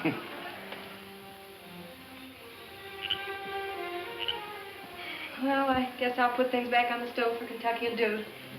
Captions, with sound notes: (Doc laughs) (frog croaking) - (sighs)Well I guess I'll put things back on the stove for Kentucky and Dude.